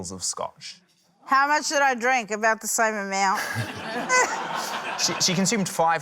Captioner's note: laughter